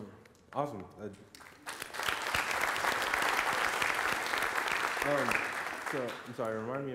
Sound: applause

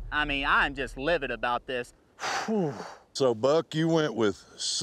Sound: exhales

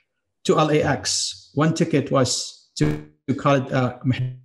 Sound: audio distortion

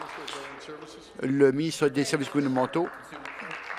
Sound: applause

